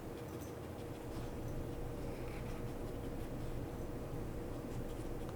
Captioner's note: puppy sniffing